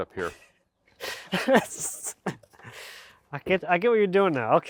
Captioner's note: laughing